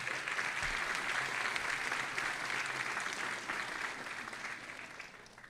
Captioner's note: audience applauding